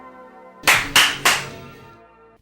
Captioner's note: clap clap clap